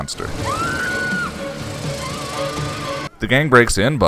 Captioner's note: Cordy screams